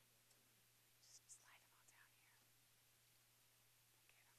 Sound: whispering

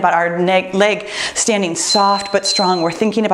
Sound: timer beeps

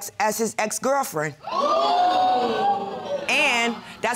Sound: audience exclaiming

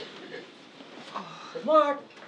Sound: Susie sighs

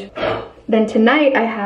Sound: blowing sound

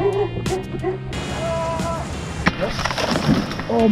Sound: dog barking; softly shouting

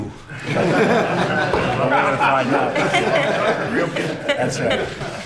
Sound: laughter

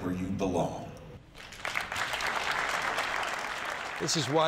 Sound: applause

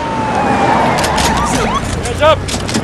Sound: sirens blaring; guns cocking

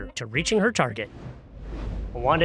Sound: logo whooshes

